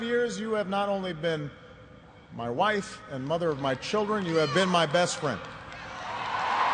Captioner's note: cheers and applause